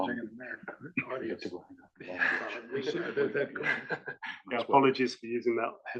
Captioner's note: laugh